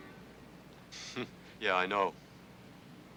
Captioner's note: Lester scoffs